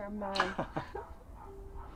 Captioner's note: Davet chuckles